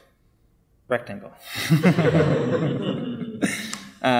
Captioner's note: laughing